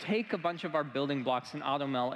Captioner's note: applause